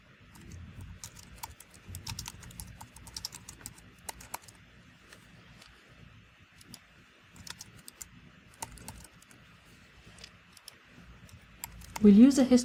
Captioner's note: pause